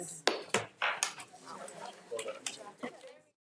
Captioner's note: gavel clacks